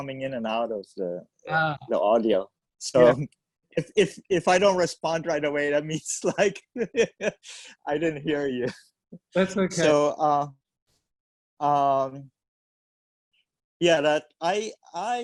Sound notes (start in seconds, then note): 6.5 laughs